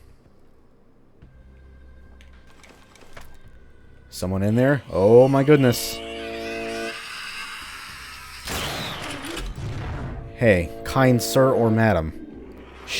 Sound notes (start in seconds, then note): 8.4 chargeup, Haunt wailing loudly, BAM